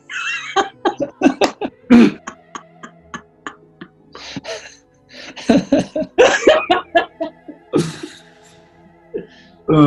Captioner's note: laughing and giggling